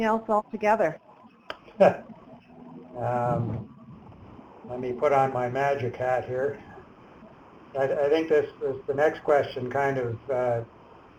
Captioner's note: laughs